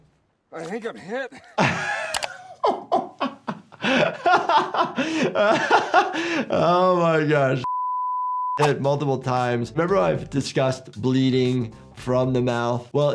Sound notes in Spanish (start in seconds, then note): 0.9 doctor riendo; 7.6 pitido estático